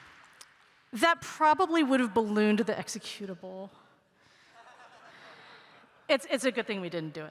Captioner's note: laughter